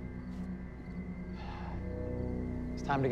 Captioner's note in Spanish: Suspiros